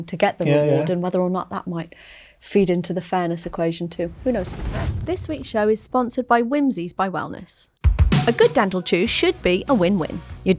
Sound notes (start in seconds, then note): 4.1 air whooshing